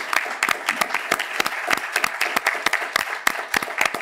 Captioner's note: applause